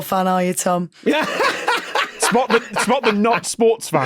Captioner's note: laughs uproariously